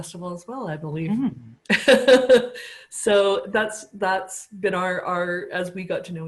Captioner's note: laughter